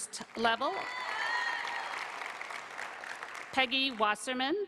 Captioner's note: applause